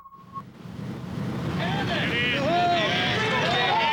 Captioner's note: crowd shouting